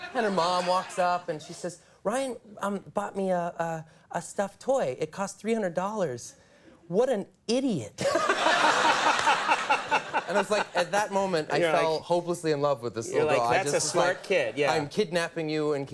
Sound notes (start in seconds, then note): 8.0 audience laughs